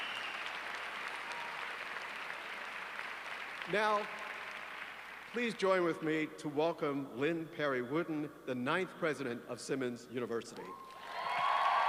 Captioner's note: applause